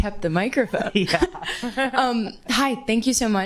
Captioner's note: attendees chuckling